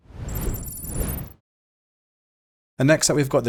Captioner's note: electronic beeping